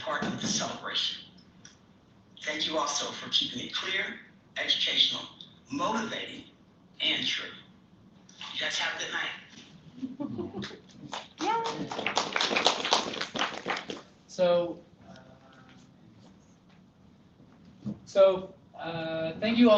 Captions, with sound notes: part of this celebration. Thank you also for keeping it clear, educational, motivating, and true. You guys have good night [APPLAUSE] >> So thank you